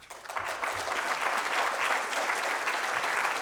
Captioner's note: applause